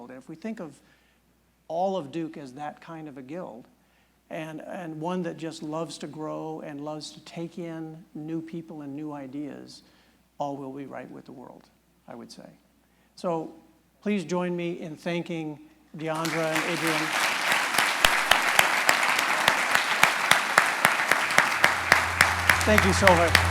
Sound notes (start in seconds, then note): 15.5 audience claps; 16.0 applause